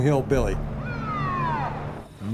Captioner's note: siren wailing